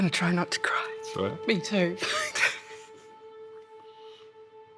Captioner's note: laughs